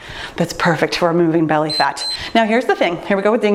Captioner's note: timer beeps